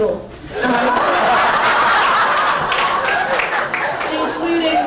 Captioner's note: crowd laughing intensifies